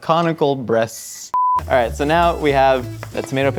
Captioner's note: beep